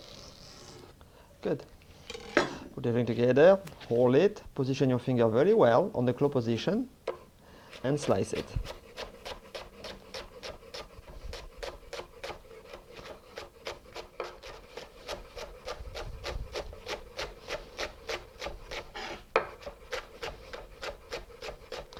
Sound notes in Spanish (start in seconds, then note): 0.0 sonido rebanando; 12.1 sonido cortando